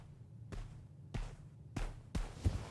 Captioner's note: footsteps approaching